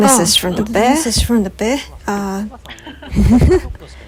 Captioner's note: laughs